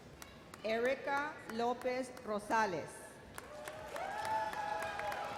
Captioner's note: audience cheers